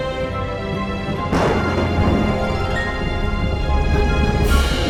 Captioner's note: thunder rumbling